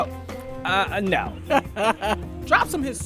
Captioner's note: laughing